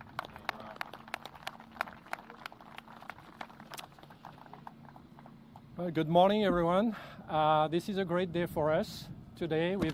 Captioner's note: applause